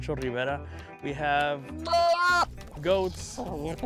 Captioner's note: llama bleating